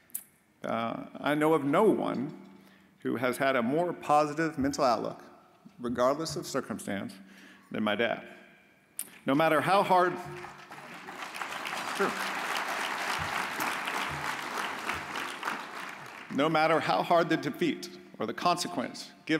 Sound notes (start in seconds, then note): 10.2 audience applauds